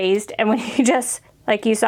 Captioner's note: chuckling